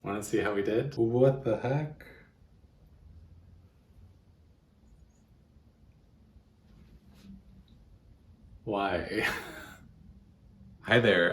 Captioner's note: defeated laughter